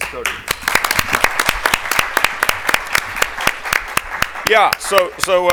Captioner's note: attendees applaud